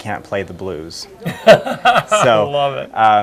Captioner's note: laughs